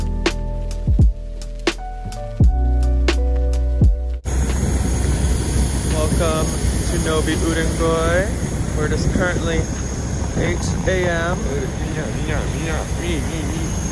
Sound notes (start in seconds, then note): 4.5 airplane engine noise; 11.5 mutters